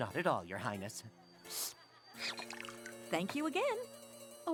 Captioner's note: slurps